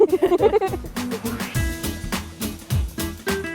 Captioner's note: laughing